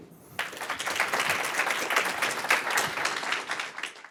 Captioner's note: audience applauding